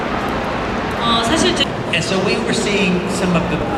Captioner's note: speaking Korean